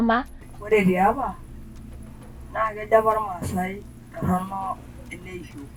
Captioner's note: speaking in Maasai